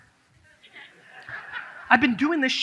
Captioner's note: audience laughs